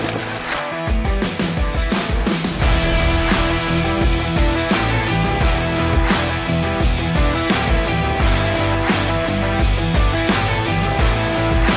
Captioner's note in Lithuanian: Plojimai